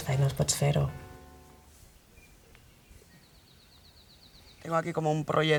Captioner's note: birds